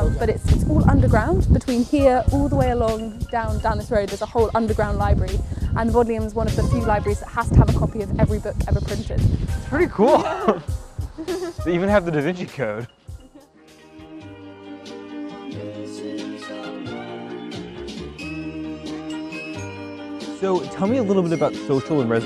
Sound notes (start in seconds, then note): 10.0 laughter; 11.4 jazz music continues